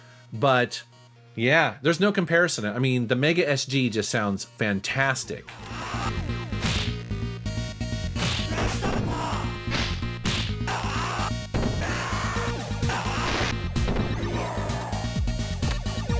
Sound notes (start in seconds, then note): 8.7 yelling; 10.4 techno music